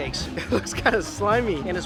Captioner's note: chuckle